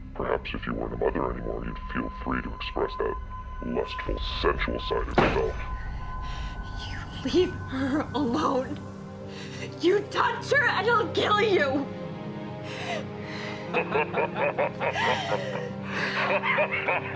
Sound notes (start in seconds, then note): 5.4 wall banging; 8.6 dramatic music; 11.9 dramatic music; 13.6 kidnapper laughing